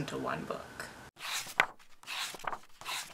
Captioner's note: pages turning